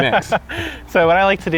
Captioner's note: laughs